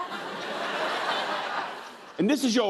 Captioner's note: laughter